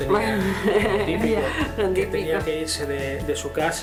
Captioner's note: laughs